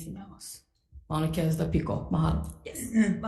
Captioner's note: speaks foreign language